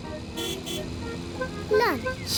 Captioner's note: horn honks